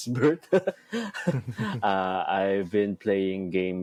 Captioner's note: chuckles; laughs